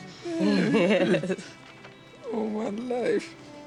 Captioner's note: laughs